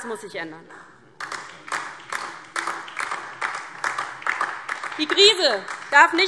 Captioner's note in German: Beifall DIE LINKE